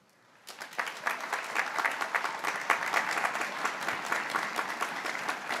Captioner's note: graduates clapping